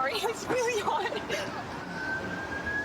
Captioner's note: siren wailing